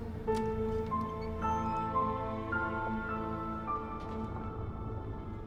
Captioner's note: door latch clicks; suspenseful music